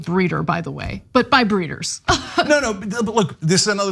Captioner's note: laugh